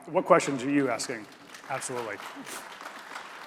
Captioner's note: audience applauding